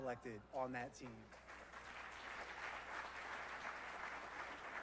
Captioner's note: applause